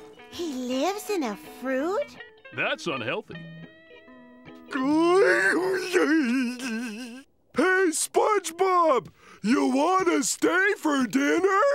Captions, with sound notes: He lives in a fruit? That's unhealthy. [giggling] Hey, SpongeBob! You wanna stay for dinner?